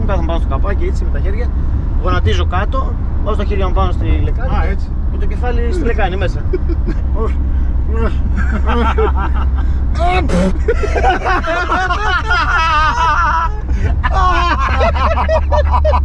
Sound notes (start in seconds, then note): 7.9 imitating tries of puking; 10.0 laughs